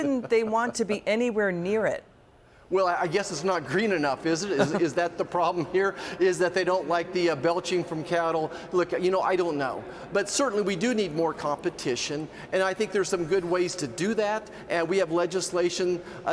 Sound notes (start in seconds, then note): 4.5 laughter